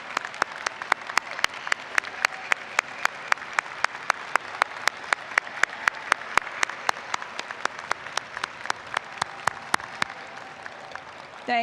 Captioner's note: applause